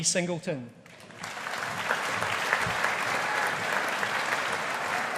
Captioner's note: audience applauding